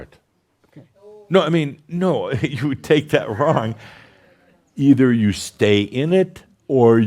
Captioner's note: someone says, “Ohh!”